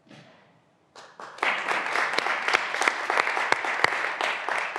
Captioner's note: graduands applauding